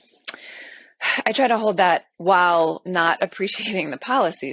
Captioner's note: sighs